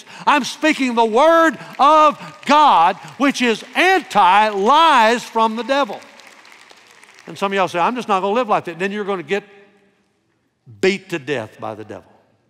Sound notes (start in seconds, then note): 6.1 congregation applauding